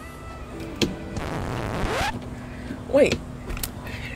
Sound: record scratches

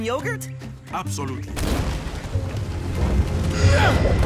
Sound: rumbling

